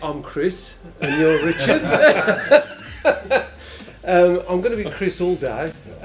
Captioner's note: both laugh